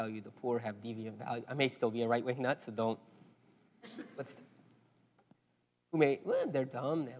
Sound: laugh

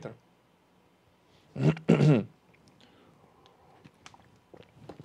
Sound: clears throat

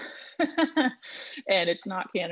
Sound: laughing

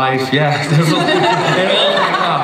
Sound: laughter

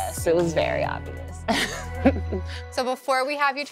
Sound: laughs

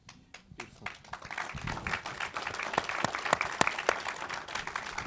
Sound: audience applauding

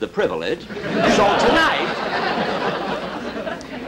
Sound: audience Laughing

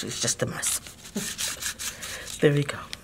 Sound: cardboard rustling

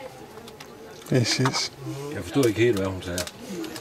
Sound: laughs

